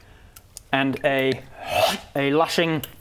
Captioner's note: hrrgh